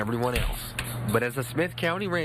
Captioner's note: nat: fridge opening